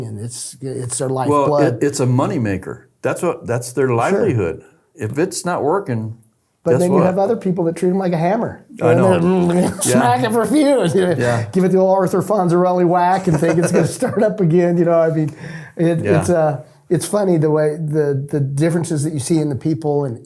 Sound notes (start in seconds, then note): 9.4 makes mechanical sounds; 13.1 laughing